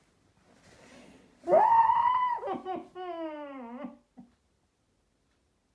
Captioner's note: crying and screaming into pillow